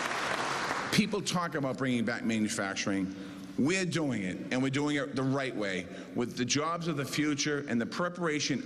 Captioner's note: cheers and applause